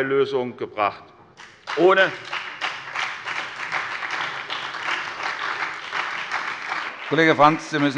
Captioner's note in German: Beifall bei der SPD